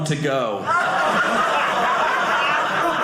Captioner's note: audience laughing